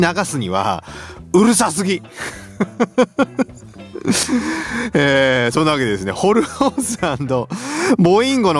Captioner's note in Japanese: 笑い